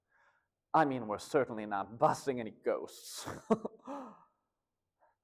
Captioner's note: chuckles